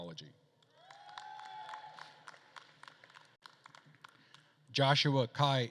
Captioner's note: attendees cheering and applauding